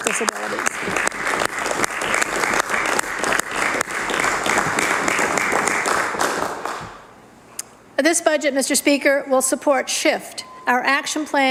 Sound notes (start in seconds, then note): 8.6 applause